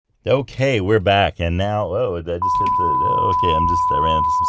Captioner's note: television test screen tone